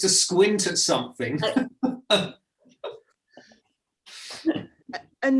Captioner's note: laughs